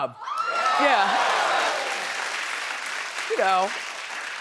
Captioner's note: applauding